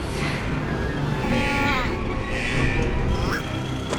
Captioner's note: grunting